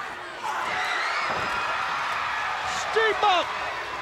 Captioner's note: crowd cheers